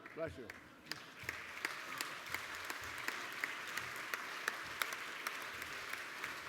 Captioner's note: applause